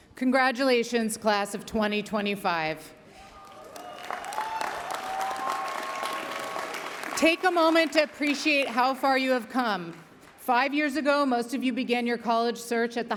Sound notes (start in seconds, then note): 3.3 audience cheering; 3.3 audience applauding